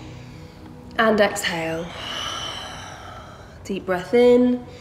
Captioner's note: heavy breathing